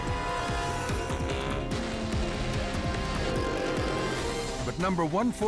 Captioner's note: engines roar; dramatic music